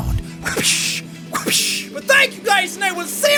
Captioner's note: wa-pish, wa-pish